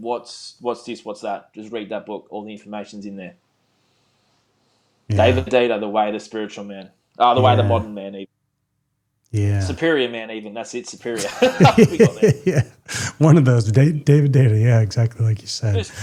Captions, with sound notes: What's this, what's that? Just read that book, all the information's in there. David Data, The Way, The Spiritual Man. Oh, The Way, The Modern Man. Yeah. Superior Man, even. That's it, Superior. (laughing) We got it. Yeah, one of those, David Data, yeah, exactly like you said.